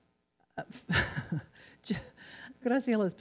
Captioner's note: laughs